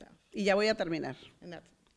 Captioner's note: foreign language